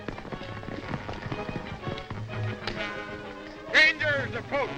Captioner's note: dramatic music; horses galloping